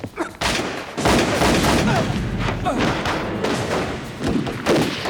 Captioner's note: rapid gunfire